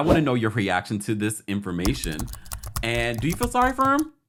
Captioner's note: clicking keys